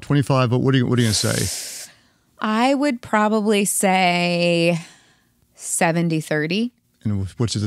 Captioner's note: inhales sharply